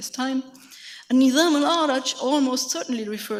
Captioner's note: speaks in a foreign language